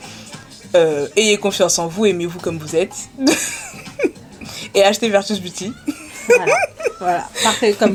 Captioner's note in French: rires